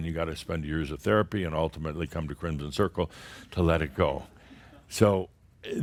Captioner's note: a few chuckles